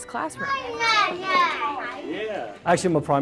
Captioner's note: kids chattering